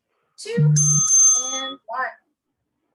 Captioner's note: bell rings